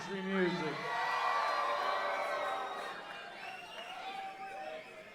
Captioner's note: audience cheering